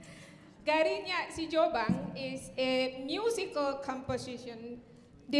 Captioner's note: speaking in Indonesian